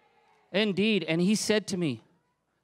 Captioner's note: shouting